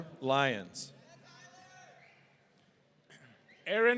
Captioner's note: crowd